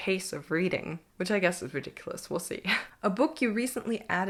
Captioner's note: chuckles